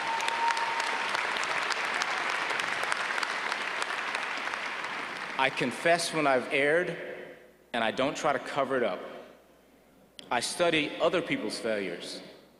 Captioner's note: applause